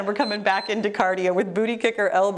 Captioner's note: timer beeps